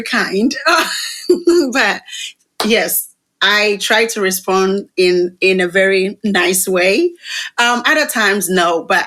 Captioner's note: laughter